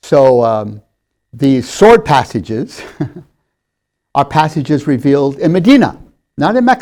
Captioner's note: laughs